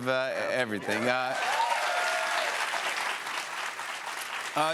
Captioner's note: cheers and applause